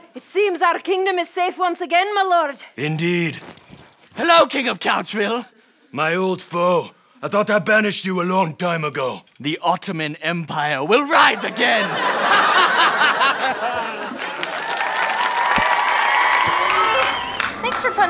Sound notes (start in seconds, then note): 11.4 evil laugh; 14.7 audience applause